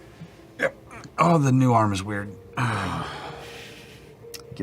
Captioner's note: groans